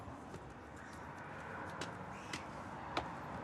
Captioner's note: cars drive past